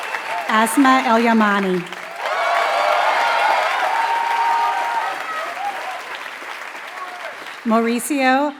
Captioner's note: applause